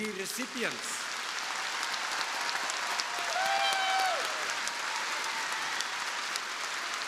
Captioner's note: crowd applauding; crowd cheering